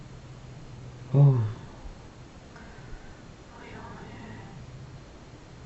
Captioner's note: foregin language